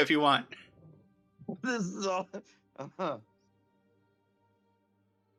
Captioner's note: laughs